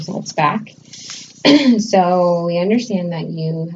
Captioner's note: clears throat